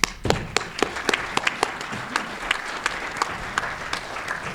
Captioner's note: audience applauding